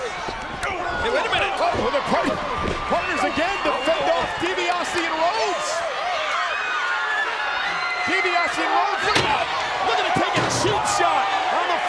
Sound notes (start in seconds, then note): 6.5 crowd exclaiming